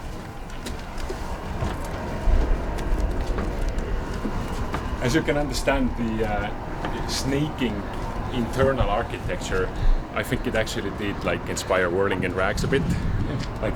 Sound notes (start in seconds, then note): 2.0 A plane rumbles overhead